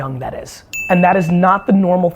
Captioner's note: bell ding